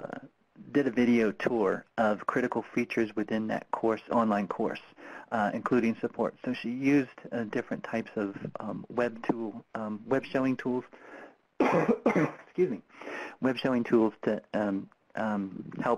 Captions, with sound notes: did a video tour of critical features within that course, online course, including support. So she used different types of web showing tools. (coughs) Excuse me. Web showing tools to